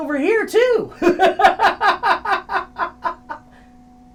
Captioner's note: laughing